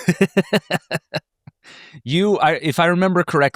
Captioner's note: laughs